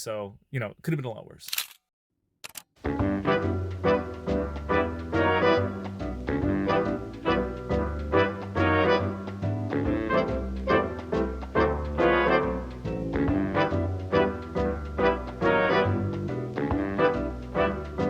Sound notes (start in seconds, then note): 1.4 camera clicking; 5.4 bouncy music; 14.9 bouncy music